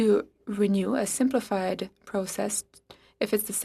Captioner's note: speaking French